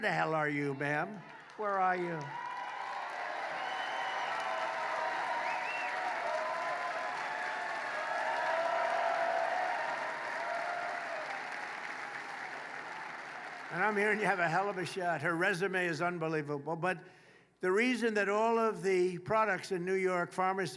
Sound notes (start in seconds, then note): 7.4 applause